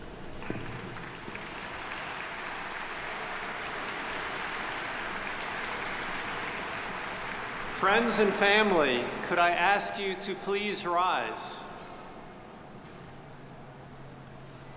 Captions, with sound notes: (audience applauding) - Friends and family, could I ask you to please rise.